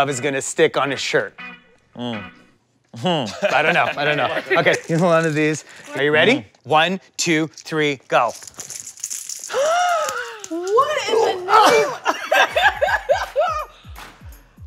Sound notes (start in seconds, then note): 9.1 gasps; 11.7 laughs